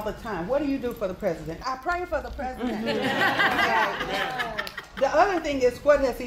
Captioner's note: applause